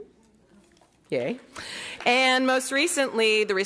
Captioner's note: applause